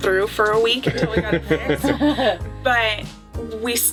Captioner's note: laughter